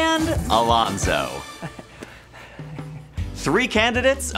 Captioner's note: chuckling nervously